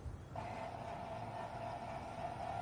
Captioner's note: videogame humming